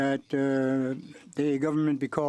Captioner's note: speaking french